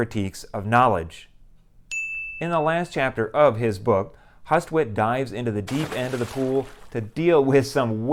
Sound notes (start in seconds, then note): 1.9 chime; 5.6 splash